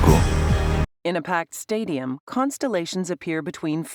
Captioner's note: non-english speech